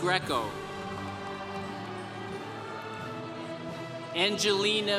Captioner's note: congregation cheering